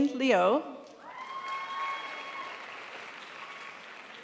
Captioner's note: crowd applauds